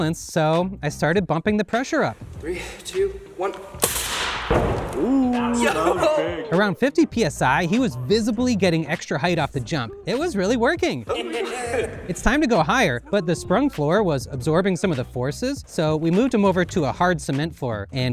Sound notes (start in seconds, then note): 3.7 air rushing